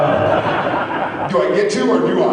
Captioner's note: laughs